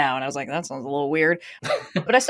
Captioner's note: laughs